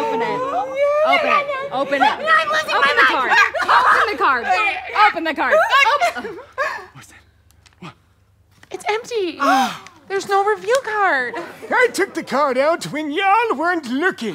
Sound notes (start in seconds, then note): 6.6 Meemaw gasps; 9.4 all gasp